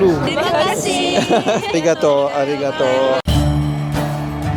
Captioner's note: laugh